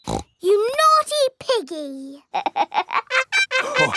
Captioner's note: snorts; laughs